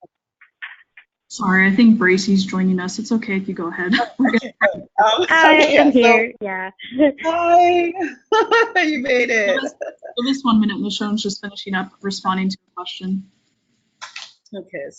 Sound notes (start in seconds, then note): 8.0 participants laugh